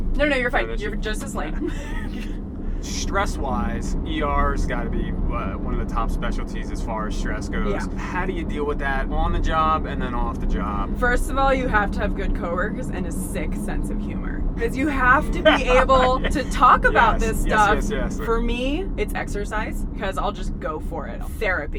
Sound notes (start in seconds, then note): 14.6 laughs